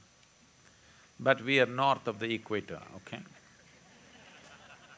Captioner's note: laughter